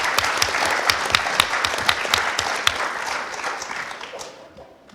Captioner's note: audience applause